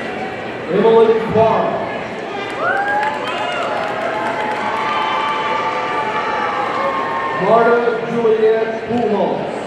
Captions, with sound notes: Emely Parra, (audience cheering and applauding) Marta Juliette Pujals,